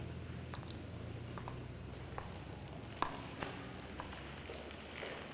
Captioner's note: footsteps